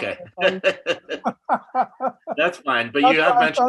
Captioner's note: laughing